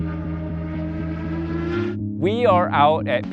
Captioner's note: car roars